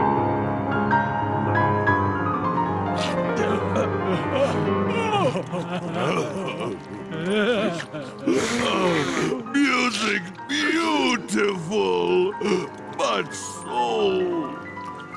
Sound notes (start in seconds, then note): 2.9 sobbing